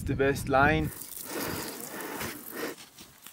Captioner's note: heavy breathing